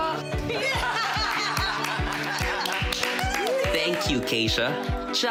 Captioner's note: laughing, clapping